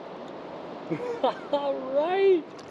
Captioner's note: chuckling